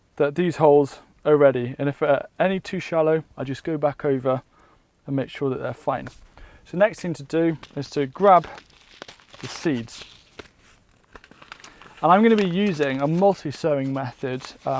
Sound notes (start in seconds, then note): 10.2 paper crinkling